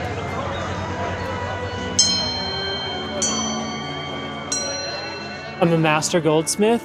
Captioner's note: sculpture dings